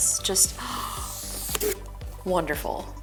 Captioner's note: gasps